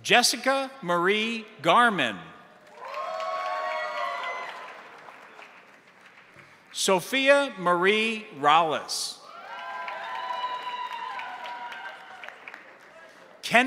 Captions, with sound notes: Jessica Marie Garman. (crowd applauding) (crowd cheering) Sophia Marie Rales. (crowd applauding) (crowd cheering)